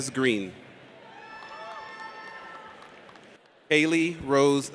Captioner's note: audience cheers